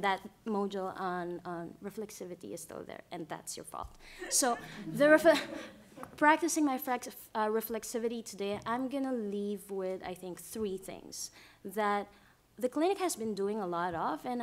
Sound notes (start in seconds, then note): 4.2 laughter